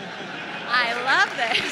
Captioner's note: attendees applauds